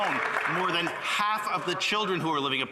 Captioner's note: some Applause